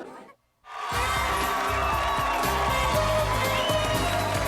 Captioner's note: applauding